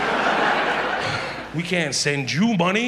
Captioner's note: audience laughs